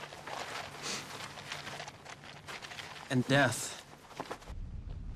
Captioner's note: sniffs